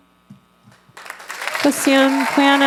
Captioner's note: applause